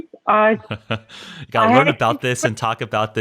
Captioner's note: laughing